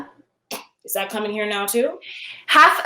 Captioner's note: scoffs